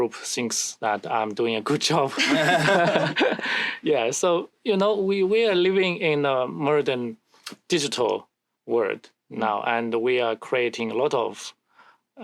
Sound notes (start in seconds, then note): 2.1 laughter